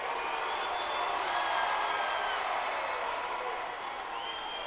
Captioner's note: crowd exclaiming